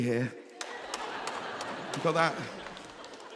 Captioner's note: audience laughing